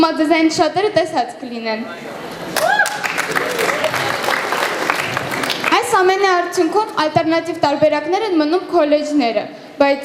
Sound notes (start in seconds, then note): 2.5 applause